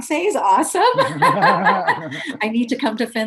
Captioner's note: laughs